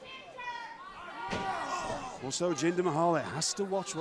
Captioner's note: crowd chatter